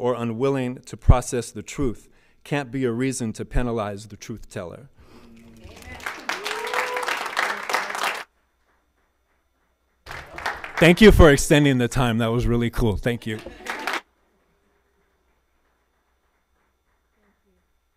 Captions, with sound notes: or unwilling to process the truth can't be a reason to penalize the truth-teller. (people cheer) (audience applauds) Thank you for extending the time. That was really cool. Thank you.